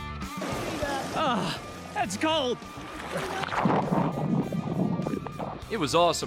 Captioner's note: water splashing